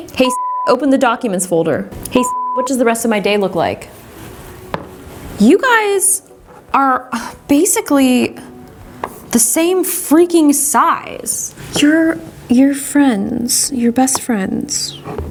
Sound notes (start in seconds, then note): 2.1 beep